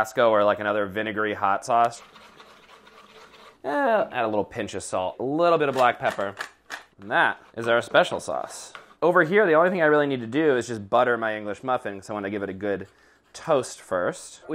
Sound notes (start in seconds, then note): 5.7 pepper grinder grinding